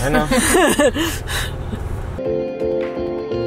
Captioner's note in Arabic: ضحك; موسيقى مبهجة